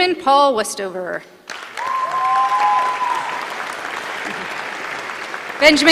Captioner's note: applause